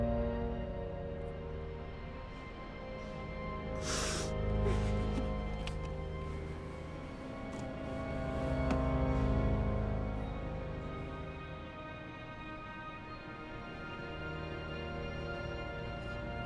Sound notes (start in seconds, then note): 3.8 sniffle, soft cry